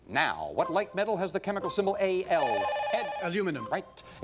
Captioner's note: bell rings